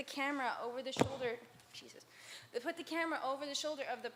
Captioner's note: thump